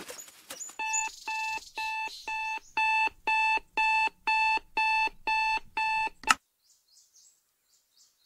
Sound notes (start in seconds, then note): 0.8 alarm beeping; 6.2 click!